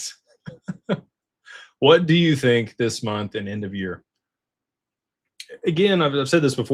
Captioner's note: laughter